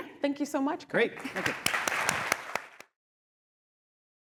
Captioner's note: applause